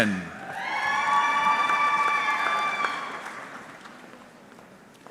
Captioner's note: audience cheering